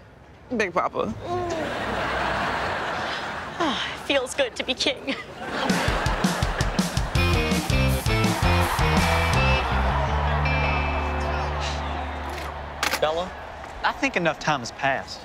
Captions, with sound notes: Big Papa. [sighs] Feels good to be king. [cheering] Bella, I think enough time has passed.